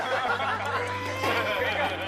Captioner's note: wah